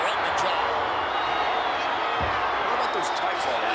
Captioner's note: crowd yelling